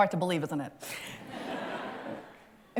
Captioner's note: laughter